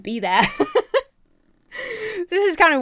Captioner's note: laughs